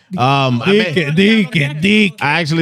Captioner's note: speaking In Foreign Language